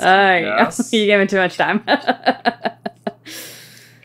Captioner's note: laughter